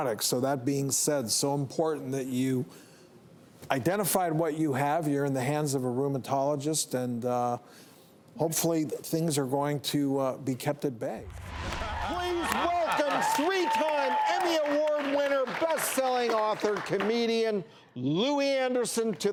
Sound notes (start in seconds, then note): 11.6 audience applauds